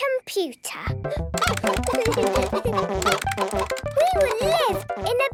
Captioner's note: keyboard tapping; computer game chickens clucking